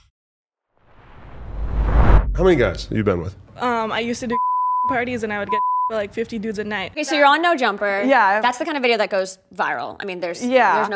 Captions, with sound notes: - How many guys you been with? - I used to do (beep) parties and I would get (beep) for like 50 dudes a night. - Okay, so you're on No Jumper. - Yeah. - That's the kind of video that goes viral. I mean there's - Yeah.